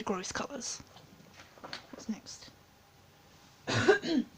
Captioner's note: distant cough; distant excuse me